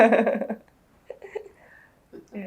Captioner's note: laughs